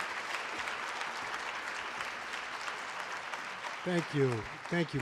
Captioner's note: applause